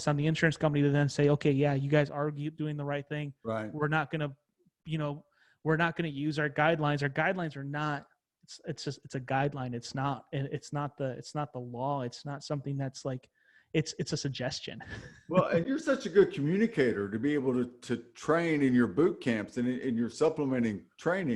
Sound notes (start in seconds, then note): 14.8 laughs